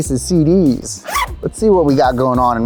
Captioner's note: zipper unzips